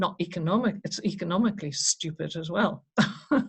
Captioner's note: chuckles